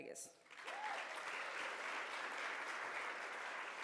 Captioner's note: audience cheers